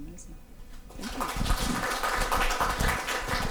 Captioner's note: audience applause can be heard